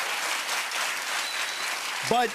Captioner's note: cheers and applause